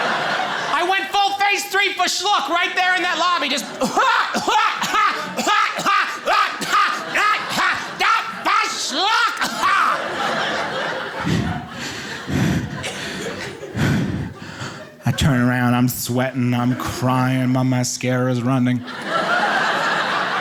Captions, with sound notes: I went full phase three fe'schluck right there in that lobby just (coughs rhythmically and loudly) fe'schluck! (coughs) (breathes heavily) I turn around, I'm sweating, I'm crying, my mascara's running. (audience laughing)